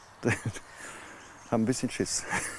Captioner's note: laughs